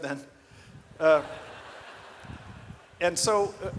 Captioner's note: audience laughs